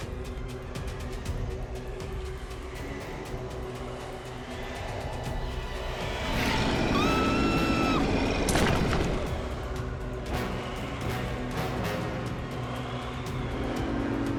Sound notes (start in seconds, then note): 5.6 wind whirling; 6.4 screaming; 6.9 creature roaring; 9.1 dramatic music